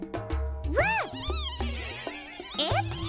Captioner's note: giggling